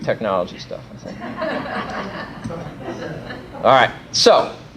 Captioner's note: laughter